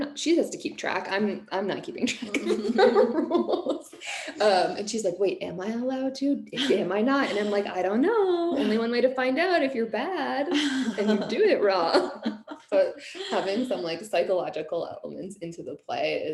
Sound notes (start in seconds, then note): 2.2 laughing